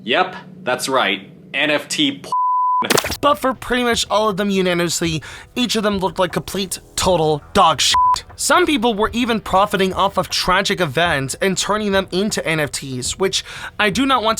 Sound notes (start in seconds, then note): 2.3 beep; 7.9 beep